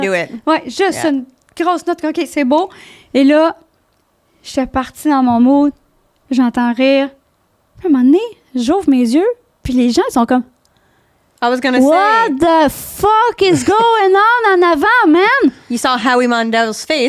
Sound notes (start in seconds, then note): 0.4 in french